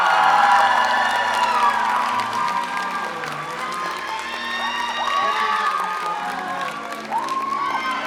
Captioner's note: applause